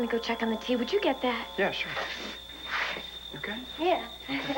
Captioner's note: doorbell rings; kettle whistles